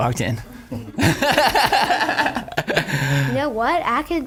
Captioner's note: laughing